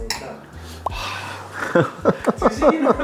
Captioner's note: sigh